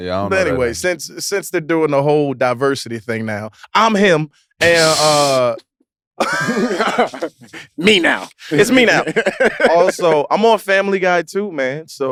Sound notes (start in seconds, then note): 6.2 group laughs